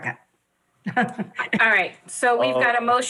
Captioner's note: laughs